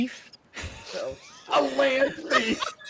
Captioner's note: people laughing